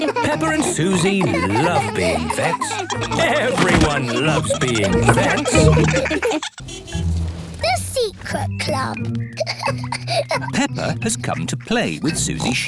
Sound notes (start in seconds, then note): 9.4 peppa giggling